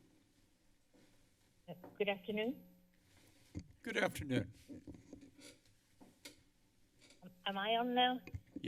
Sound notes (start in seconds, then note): 5.1 creaking sound